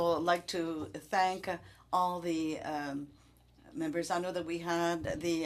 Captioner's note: speaking French